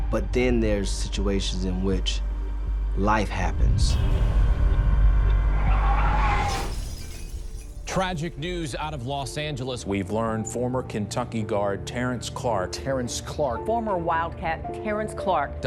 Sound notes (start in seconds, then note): 6.1 glass shattering